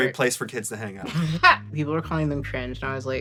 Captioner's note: laughs